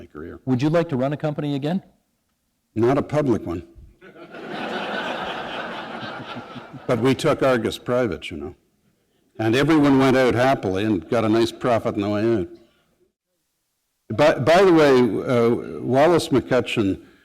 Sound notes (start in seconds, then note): 4.0 laughter